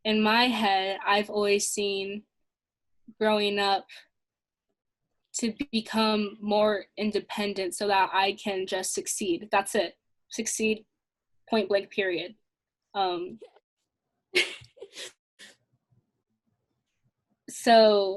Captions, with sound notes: In my head I've always seen growing up to become more independent so that I can just succeed. That's it. Succeed, point blank, period. (laughing)